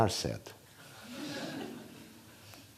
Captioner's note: laughter